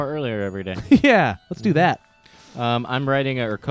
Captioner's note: laughs